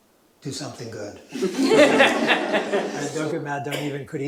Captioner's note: laughter